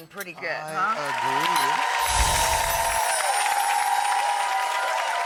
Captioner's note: audience applauding